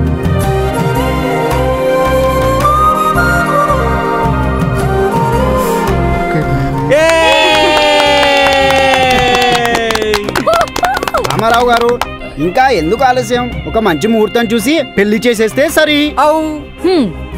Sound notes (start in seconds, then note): 9.7 claps